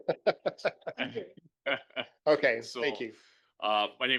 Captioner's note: laughing